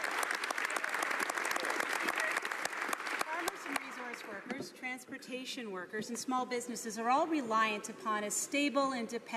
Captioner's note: some Applause